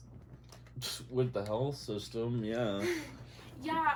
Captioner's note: laughs